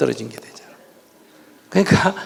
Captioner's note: audience laughing